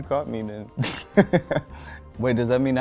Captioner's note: laughs